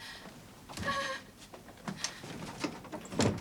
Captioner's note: sobbing